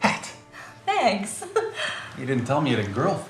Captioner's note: laughs